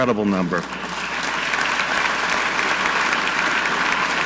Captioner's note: audience clapping